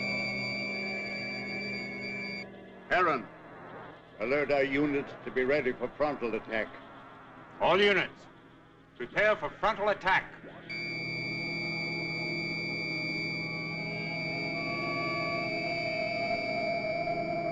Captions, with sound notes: Herron. Alert our units to be ready for frontal attack. - All units, prepare for frontal attack. (strange ringing)